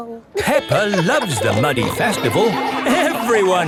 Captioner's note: laughing